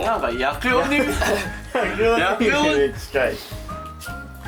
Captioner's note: laughs